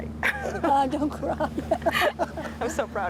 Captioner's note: chuckles; laughs